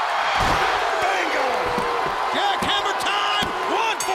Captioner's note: crowd cheering